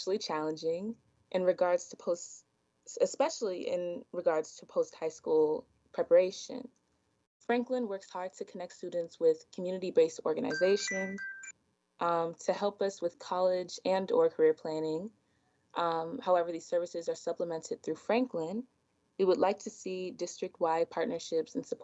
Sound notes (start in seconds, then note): 10.5 chime